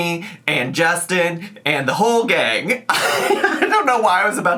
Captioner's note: laughs